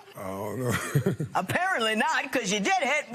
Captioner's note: chuckles